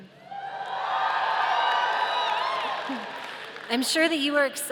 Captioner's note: audience cheering